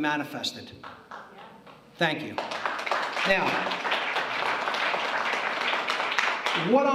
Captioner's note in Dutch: applaus